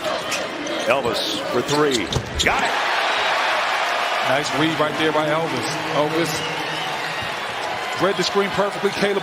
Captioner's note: cheers and applause